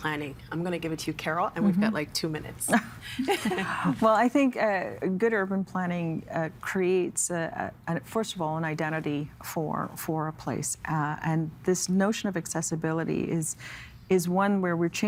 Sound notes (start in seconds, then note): 3.1 chuckling